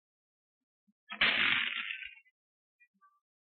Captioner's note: pearls scattering